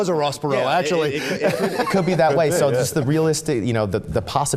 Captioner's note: laughs